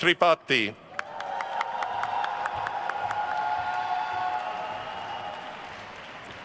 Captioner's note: attendees cheering and applauding